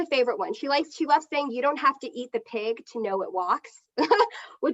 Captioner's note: chuckles